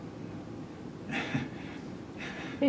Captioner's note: laughs